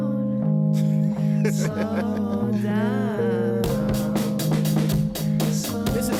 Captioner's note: laughing